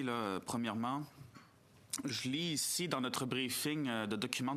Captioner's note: speaking in French